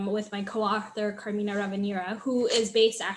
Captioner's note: papers rustle